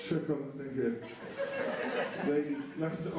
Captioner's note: laughter